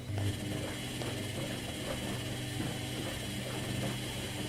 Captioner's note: washer whirring